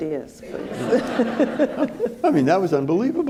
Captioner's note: all laughing